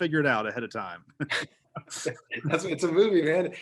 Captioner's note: both laughing